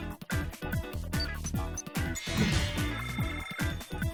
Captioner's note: cell phone rings